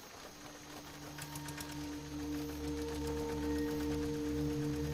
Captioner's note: Vehicle engine starts